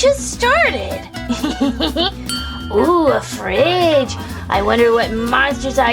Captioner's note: giggles